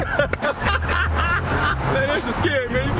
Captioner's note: laughs